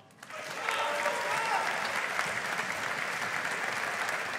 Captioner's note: audience applauding